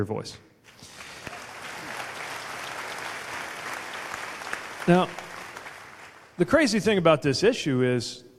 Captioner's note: applause